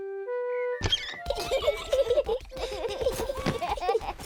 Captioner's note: both laughing